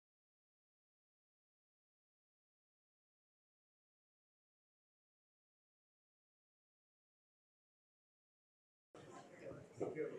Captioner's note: silence